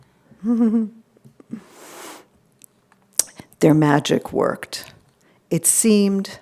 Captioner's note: chuckled